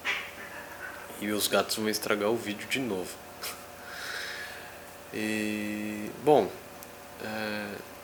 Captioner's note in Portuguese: Barulho de gatos brincando ao fundo